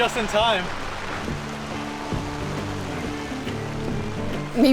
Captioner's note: heavy rain on canvas tent